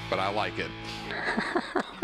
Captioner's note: laughter